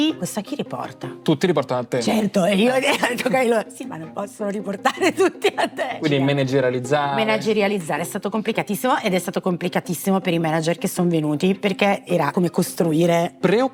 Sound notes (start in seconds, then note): 4.8 laugh